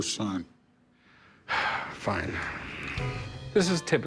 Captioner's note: sighs